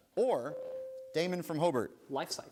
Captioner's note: bell rings